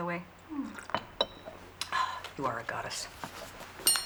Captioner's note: sighs